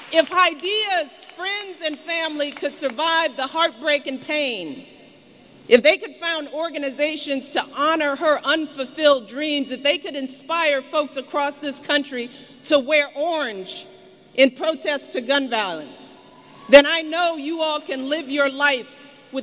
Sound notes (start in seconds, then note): 2.4 applause